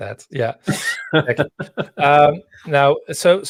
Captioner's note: laughing